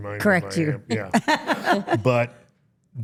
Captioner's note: interviewer laughing